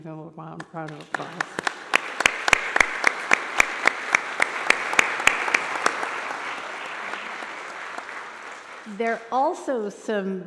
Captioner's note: applause